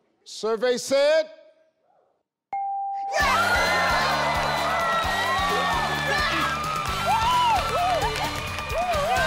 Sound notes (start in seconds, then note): 2.5 bell rings; 3.1 cheering